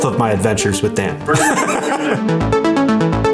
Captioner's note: intense music; laughing